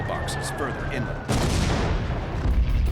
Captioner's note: explosion